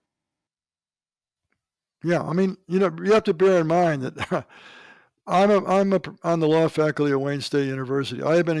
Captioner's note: laughs